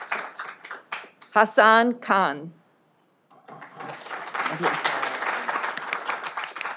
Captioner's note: audience applauding